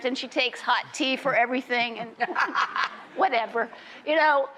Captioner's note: laughs